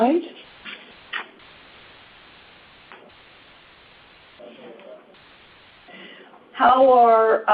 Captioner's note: silence